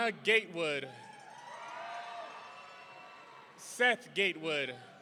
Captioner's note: audience cheering